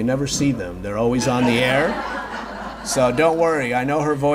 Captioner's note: audience laughs